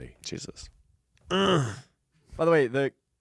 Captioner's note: grunts